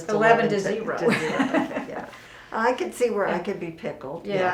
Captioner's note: laughs